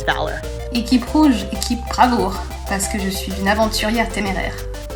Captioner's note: speaks in foreign language